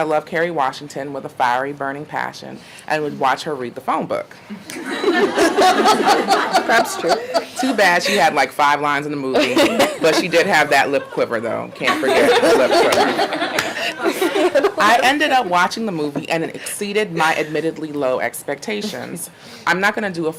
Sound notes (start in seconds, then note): 11.7 audience laughing